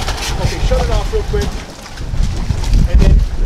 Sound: engine sputters

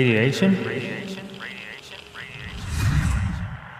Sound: voice echoing; air whooshing

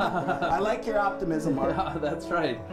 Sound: laughter

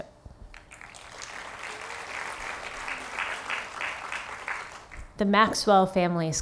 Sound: applause

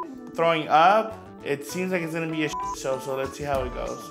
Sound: beep; beep

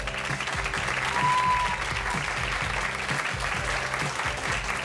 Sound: audience clapping

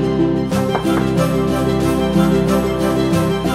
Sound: door knocking; orchestral music intensifies

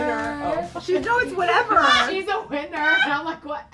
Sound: laughing

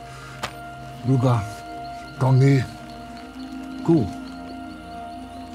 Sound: V'rugga speaks gibberish

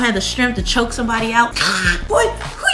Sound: choking

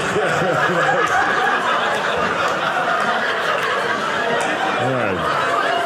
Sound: audience laughing

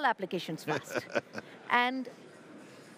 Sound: laughs

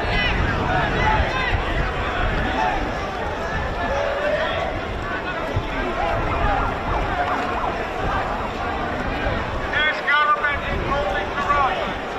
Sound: crowd noise; crowd chanting

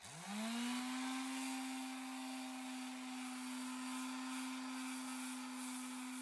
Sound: sanding sounds

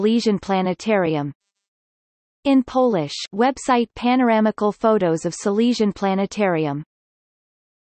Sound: in Polish

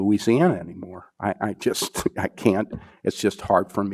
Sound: scoffs

